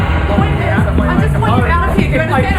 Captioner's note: people arguing